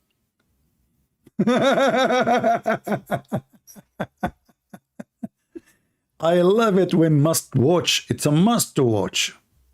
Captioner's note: Ketawa